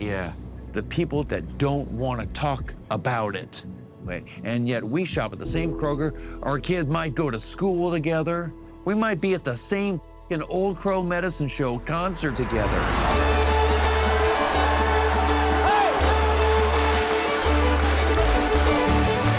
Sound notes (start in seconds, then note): 13.2 rousing country music; 14.5 audience cheering; 16.1 audience clapping